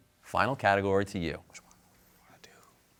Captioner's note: whispering